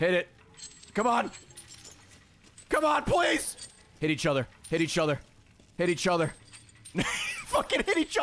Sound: laughs

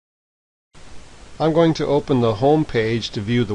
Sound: voiceover

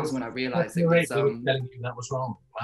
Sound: Russell murmurs

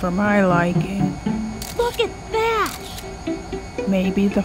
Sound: camera clicks

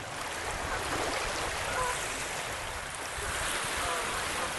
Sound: geese honking

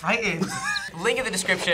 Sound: laughs

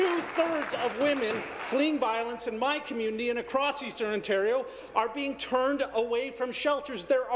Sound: applause

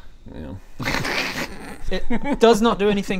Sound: snickering

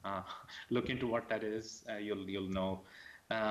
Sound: laughs

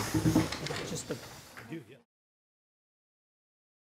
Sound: chairs rustling

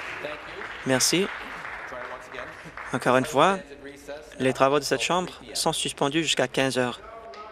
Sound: applause

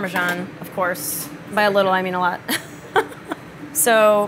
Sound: laughs

